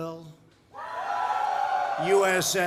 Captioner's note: applause